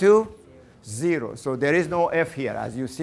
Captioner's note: class in unison